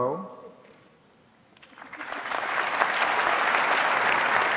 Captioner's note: applause